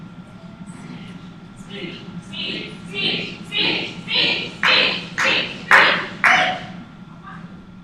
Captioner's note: chanting